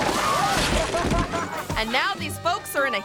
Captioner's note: person laughs